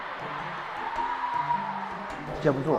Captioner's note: waves of cheers